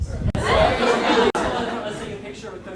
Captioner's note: audience laughing